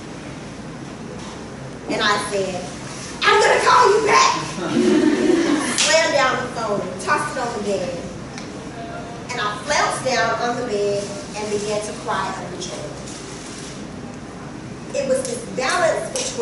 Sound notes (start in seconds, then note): 4.5 laughter